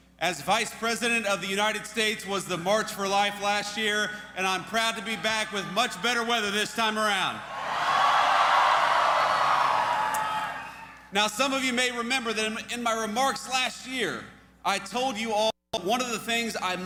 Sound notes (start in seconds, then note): 7.4 cheers